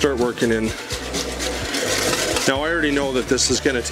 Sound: scraping pan

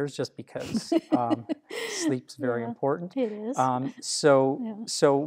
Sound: laughter

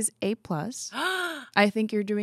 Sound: gasps

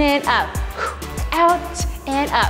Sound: huffs breath out

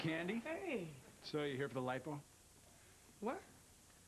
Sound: none

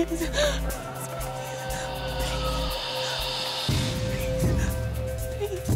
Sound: whispering

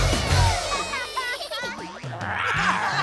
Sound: cheering; laughing

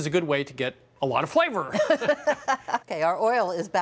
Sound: laughing

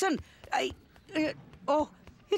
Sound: stammers

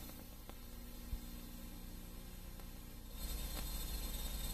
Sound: VHS static

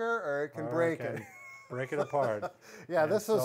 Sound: laughs

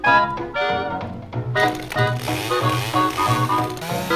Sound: chainsaw revs

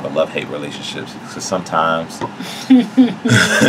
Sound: laughs

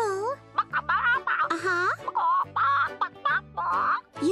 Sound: clucking

